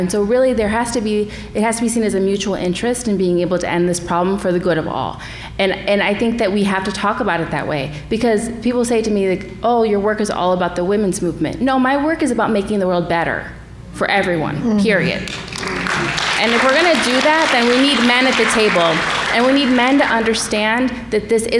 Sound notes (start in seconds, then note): 15.2 applause